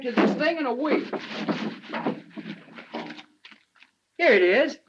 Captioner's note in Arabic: حفيف الورق